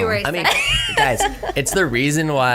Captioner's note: laughs